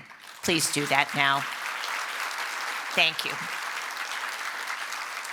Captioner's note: applause